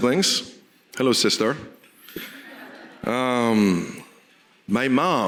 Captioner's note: audience laughing